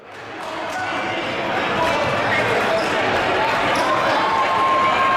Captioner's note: crowd murmuring and yelling